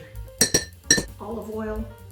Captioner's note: spoon clanking